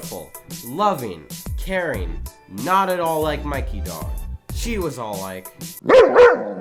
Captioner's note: dog